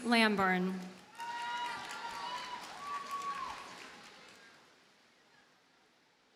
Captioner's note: audience cheers and applauds